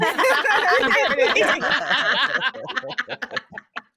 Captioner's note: all laughing